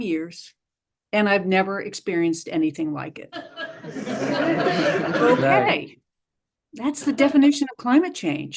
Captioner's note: laughter